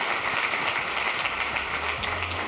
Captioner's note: applause